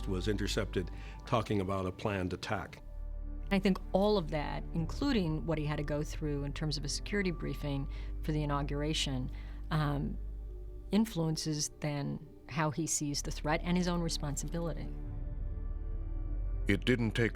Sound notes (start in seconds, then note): none